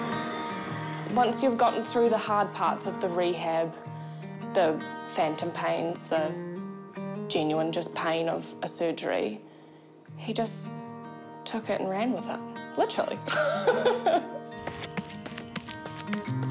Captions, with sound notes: - Once you've gotten through the hard parts of the rehab — the phantom pains, the... genuine— just pain of a surgery — he just took it and ran with it. Literally. (LAUGHS)